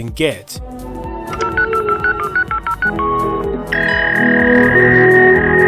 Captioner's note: sweet, sweet, dial up noises